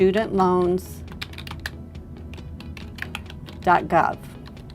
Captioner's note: typing sounds